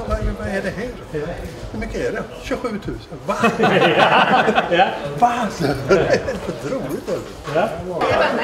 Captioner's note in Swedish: Skratt